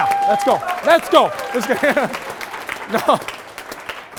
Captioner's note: loud applause; laugh